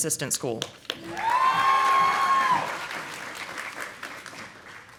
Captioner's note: audience applauding